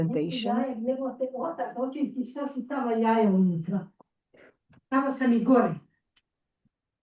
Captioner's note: speaks foreign language